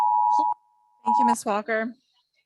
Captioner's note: timer beeping